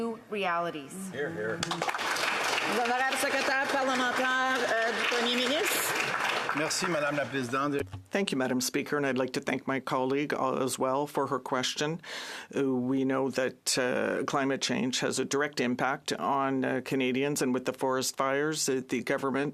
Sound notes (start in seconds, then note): 7.1 speaking in French